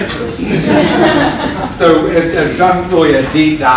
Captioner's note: laughter